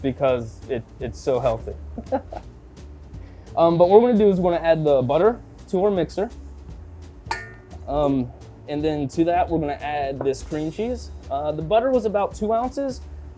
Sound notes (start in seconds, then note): 1.9 chuckling